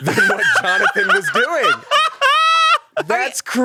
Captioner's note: laughs